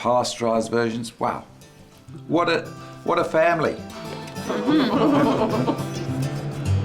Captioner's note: all laugh